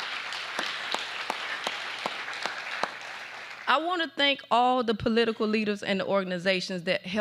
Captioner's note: applause